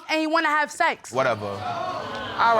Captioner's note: audience exclaiming